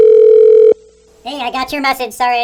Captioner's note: phone ringing